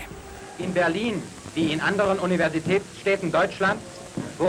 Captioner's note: man speaking german